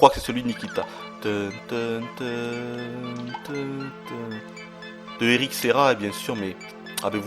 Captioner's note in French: chantonne